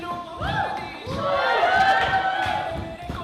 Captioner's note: cheering